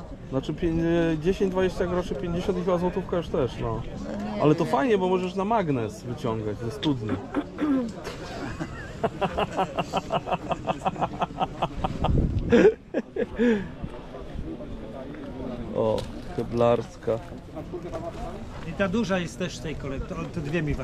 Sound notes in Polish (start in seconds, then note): 11.5 śmiech